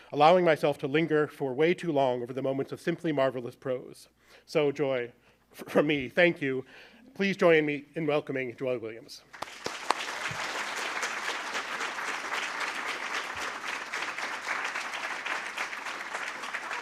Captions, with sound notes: allowing myself to linger for way too long over the moments of simply marvelous prose. So, Joy, for me, thank you. Please join me in welcoming Joy Williams. [APPLAUSE]